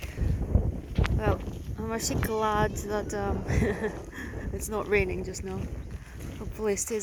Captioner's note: laughs